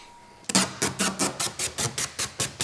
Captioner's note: tearing noises